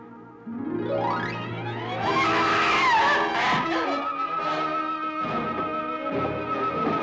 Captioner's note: dramatic music; Sheila screaming